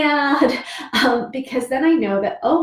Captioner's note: laughs